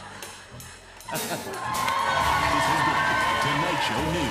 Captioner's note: off-key notes play; cheers and applause